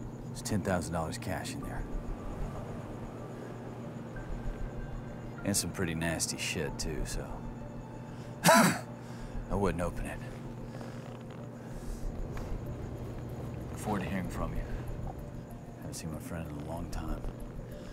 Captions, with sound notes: There's $10,000 cash in there - and some pretty nasty shit too, so [coughs] I wouldn't open it. Look forward to hearing from you. I haven't seen my friend in a long time.